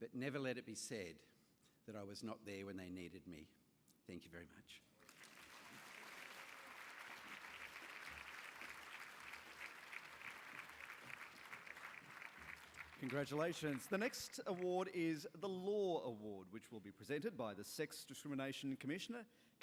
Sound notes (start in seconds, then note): 5.4 applause